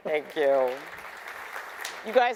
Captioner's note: attendees applause